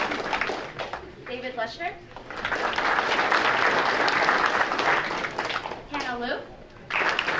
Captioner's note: audience applauding